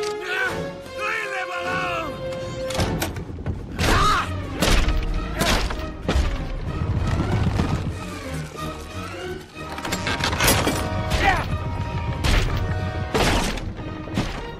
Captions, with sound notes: No! Leave them alone! (DOOR CLOSES) (CHARLES SCREAMS)